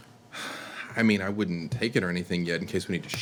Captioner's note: sighs